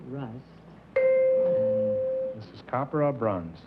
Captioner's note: bell